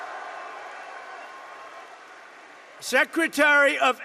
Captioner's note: applause